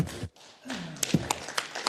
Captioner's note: applause